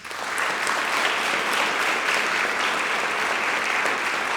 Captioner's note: audience clapping